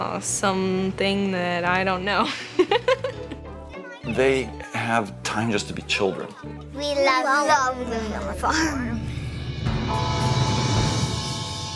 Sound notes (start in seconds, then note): 2.5 laughs